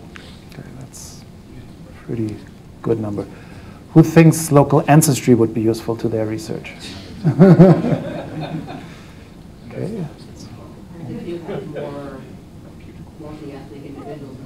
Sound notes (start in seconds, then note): 7.1 mixed laughs